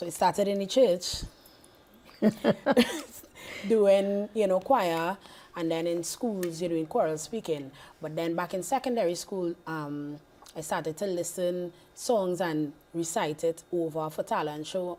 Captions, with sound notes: So it started in the church. [laughing] Doing, you know, choir, and then in schools, you're doing choral speaking. But then back in secondary school, I started to listen songs and recite it over for talent show